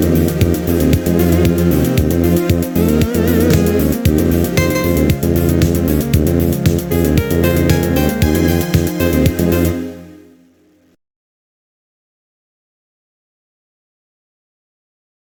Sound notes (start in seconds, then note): 2.0 strum; 11.2 silence